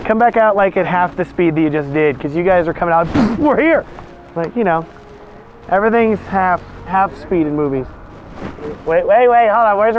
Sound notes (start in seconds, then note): 3.0 boof